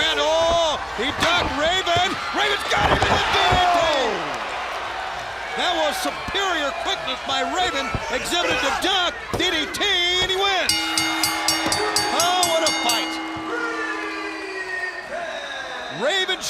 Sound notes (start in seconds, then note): 4.2 crowd cheering; 10.6 crowd cheering; 10.7 bell ringing